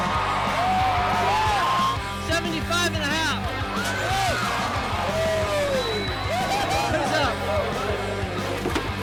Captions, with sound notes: - 75 and a half. (people cheering)